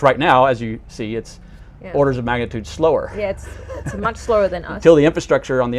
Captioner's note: chuckles